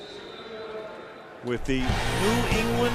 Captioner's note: pa announcement